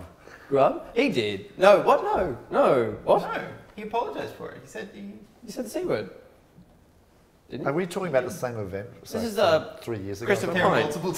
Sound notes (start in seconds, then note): none